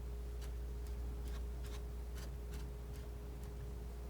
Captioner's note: scratching